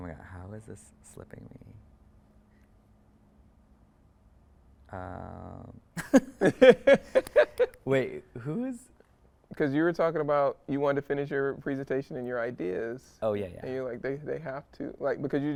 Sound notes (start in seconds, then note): 6.0 speakers laugh